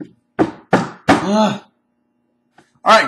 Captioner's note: sighs